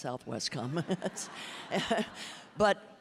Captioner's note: audience laughing